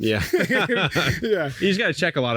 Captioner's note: men laughing